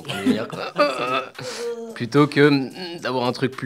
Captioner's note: laughs